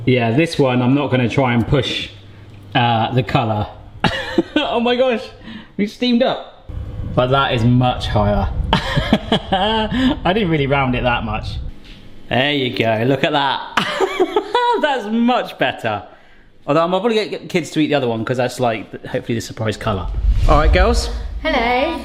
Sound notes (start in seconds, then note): 14.4 laughs